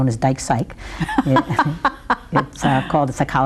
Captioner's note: laughs